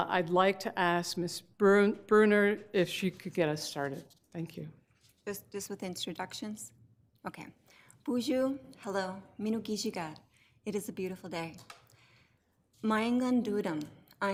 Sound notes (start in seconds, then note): 8.1 speaks foreign language; 12.9 speaks foreign language